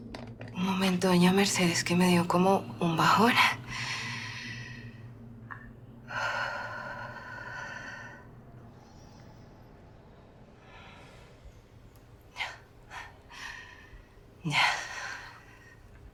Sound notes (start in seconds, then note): 3.6 breathing deeply